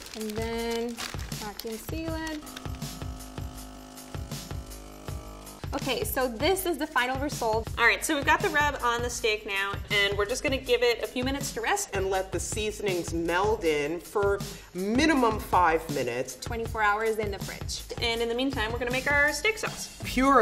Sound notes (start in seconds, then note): 2.3 whirring